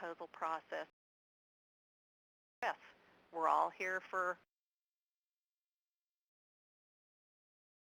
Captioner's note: audio cuts out